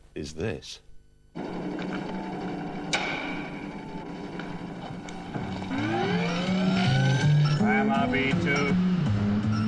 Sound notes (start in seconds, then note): 1.3 machine whirring; 4.4 machine beeps